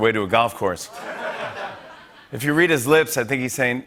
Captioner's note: laughter